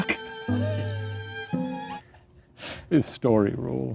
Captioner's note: laughs